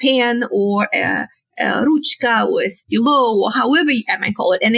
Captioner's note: speaking in foreign language